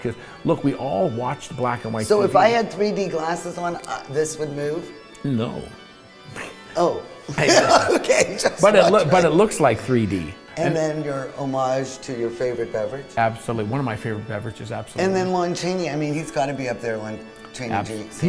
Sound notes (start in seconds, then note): 6.2 laughs